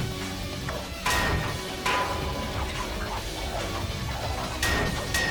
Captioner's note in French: les poteaux claquent et sifflent